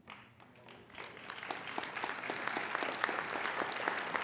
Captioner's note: applauding